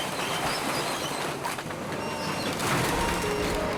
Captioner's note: excavator beeping